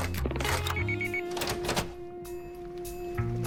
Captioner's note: brief beeping